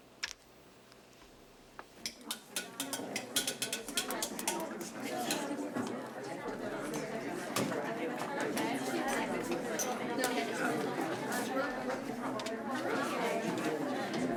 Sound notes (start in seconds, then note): 1.7 class murmurs; 1.7 rhythmic clicking